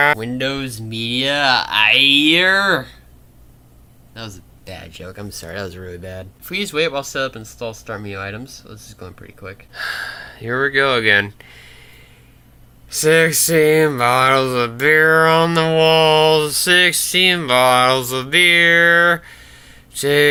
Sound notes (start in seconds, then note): 9.8 sigh